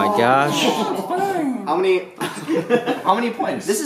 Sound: laughter

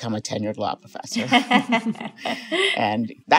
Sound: laughing

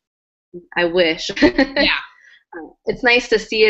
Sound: laugh

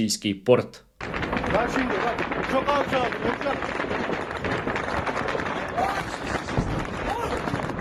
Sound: sounds of gunfire

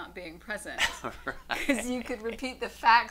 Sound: laughs loudly

